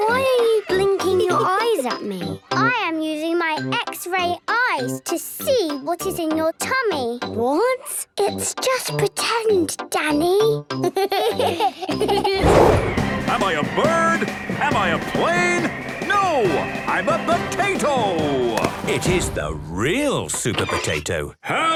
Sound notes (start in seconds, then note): 8.8 whispers; 10.9 giggles